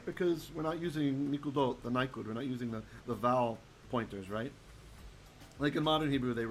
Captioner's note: Hebrew